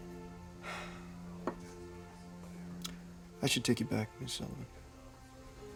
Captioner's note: sighs